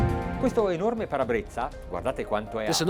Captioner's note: dramatic music; speaking Italian